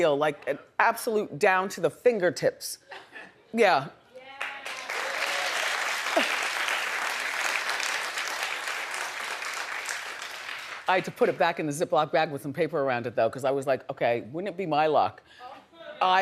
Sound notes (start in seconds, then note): 4.3 audience clapping